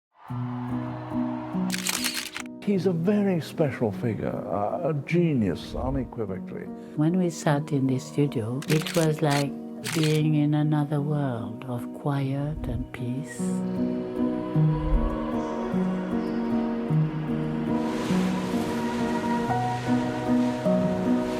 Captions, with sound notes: (gentle music) (camera clicking) - He's a very special figure, a genius, unequivocally. - When we sat in his studio, it was like being in another world of quiet and peace. (gentle music continues) (waves whooshing)